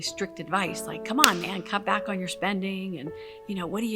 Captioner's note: hands clap